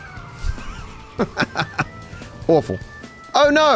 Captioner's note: laughs